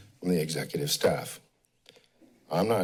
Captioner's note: pause